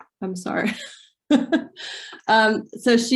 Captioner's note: giggles